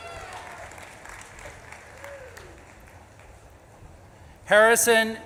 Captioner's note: audience claps and cheers